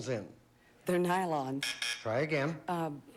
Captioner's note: buzz buzz